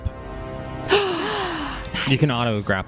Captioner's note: gasp